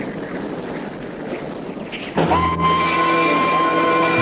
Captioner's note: train whistle